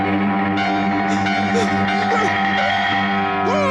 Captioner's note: gasps; screams